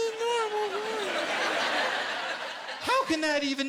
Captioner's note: laughter